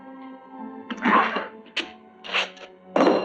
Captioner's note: grunting